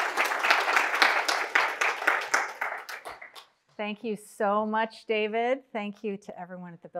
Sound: applause

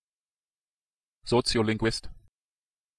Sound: fast Pronunciation

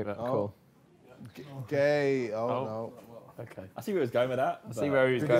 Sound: group chattering

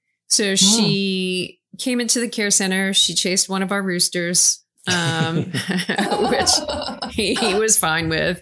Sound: laughing

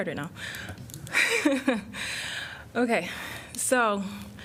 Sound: laughter

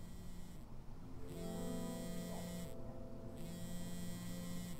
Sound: phone vibrating

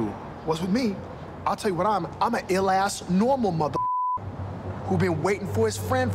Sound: beep

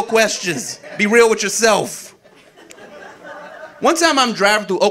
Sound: audience laughing

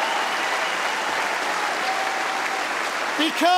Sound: cheering & Applause

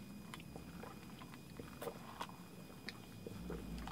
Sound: gulps

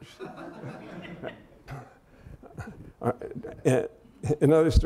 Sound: laughter

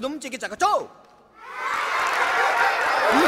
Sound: students Laughing

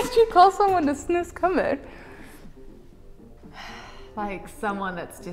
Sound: speaking in a foreign language

